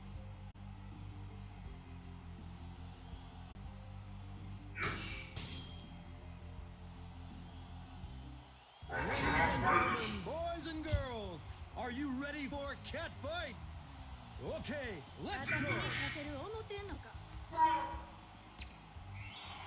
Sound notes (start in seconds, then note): 8.9 demon noises